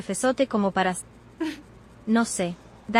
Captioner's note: giggles